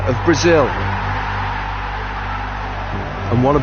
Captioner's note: crowd cheering